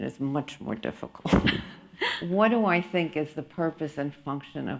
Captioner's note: chuckles